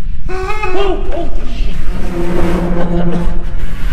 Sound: clown laughing

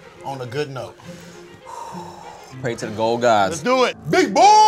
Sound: exhales

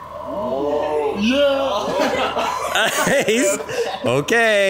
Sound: everyone laughs

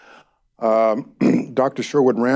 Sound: Jeh clears throat

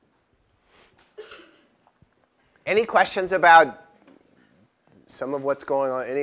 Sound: cough

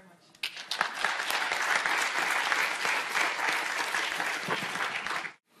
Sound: audience applauding

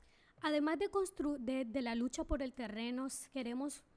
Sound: speaking spanish

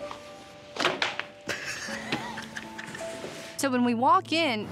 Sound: roll thuds, giggling

